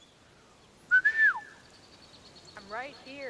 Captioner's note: whistling